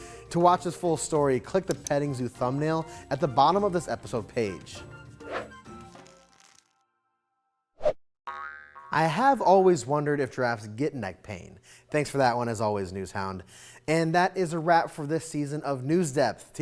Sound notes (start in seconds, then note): 5.4 screen swooshing; 5.4 spring pinging